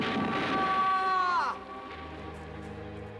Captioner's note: screaming